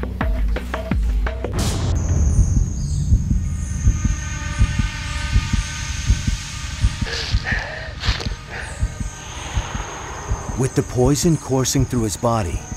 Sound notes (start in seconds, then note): 7.0 breathing heavily